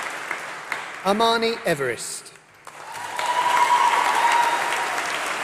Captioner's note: applause